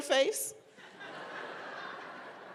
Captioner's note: laughter